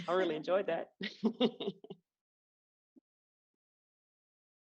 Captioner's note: laughs